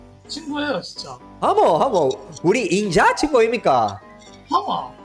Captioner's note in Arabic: بلهجة بوسان